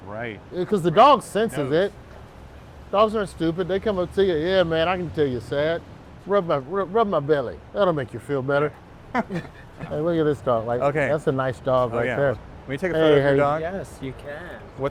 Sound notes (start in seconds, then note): 9.1 chuckle